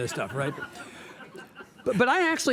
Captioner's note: audience laughs